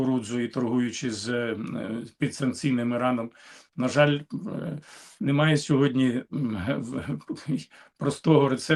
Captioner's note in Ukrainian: прочищення горла